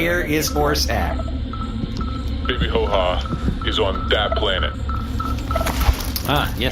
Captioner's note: fob begins beeping louder